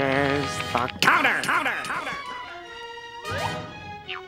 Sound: "counter" echoing

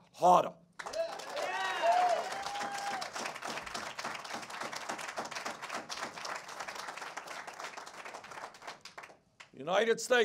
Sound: cheers and applause

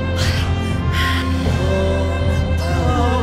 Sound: Susan gasping; Danielle growling; attendees whimpering

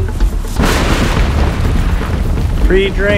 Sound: loud thunderstorm

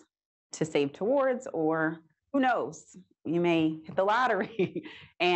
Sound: chuckles

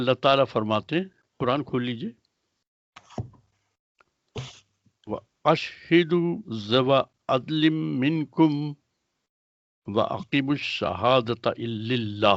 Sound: speaks Arabic

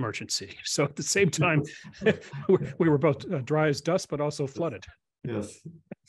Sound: laugh

